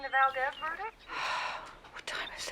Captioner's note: sighs